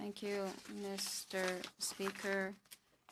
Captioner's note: speaking in French